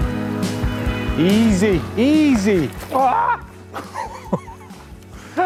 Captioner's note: laughing